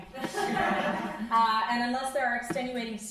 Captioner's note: crowd laughing